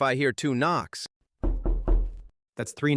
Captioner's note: knocking 3 times